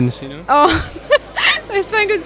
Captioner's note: laughs